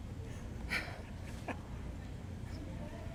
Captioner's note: chuckling